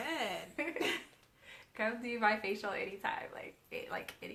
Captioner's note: both laughing